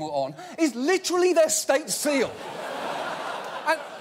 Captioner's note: audience laughing